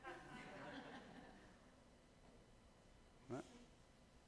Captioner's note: audience laughing